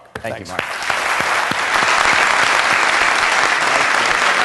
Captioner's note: applause